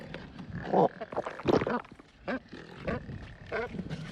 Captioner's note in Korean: 꿀꺽